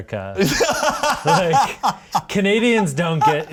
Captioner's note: laughing